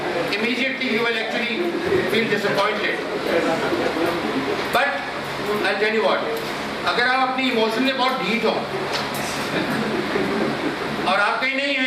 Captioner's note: laughter